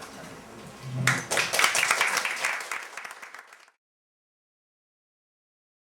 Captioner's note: applause